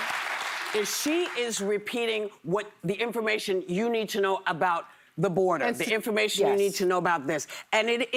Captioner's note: laughter and applause